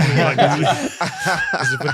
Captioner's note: laughing